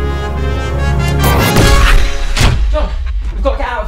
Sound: sci-Fi Explosion

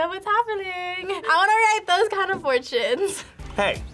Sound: laughs

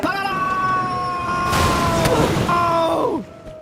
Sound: boom

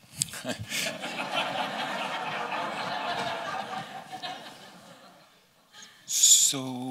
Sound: laughter

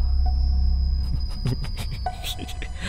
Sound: Pradhik laughs

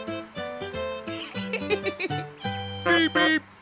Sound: laughing

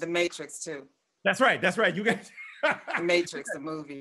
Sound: laughs

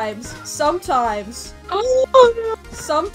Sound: dramatic gasp

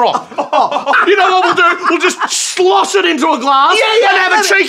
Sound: maniacal laughter

